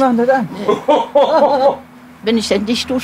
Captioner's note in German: Lachen